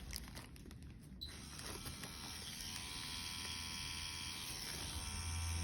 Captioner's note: machine whirring